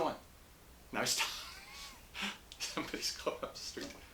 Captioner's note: laughs